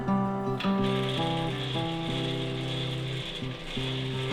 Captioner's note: machine whirring